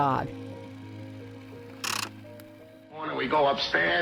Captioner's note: film clicks